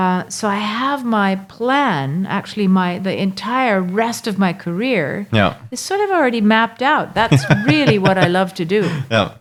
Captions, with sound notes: So I have my plan, actually the entire rest of my career is sort of already mapped out. (laughing) That's really what I love to do.